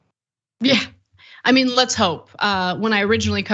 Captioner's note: laugh